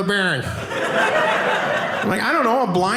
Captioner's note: audience laughing